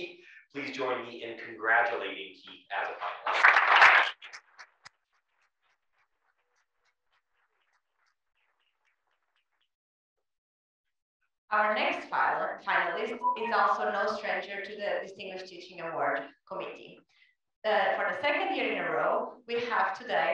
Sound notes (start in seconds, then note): 2.8 applause